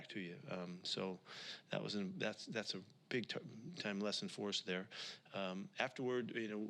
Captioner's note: takes a breath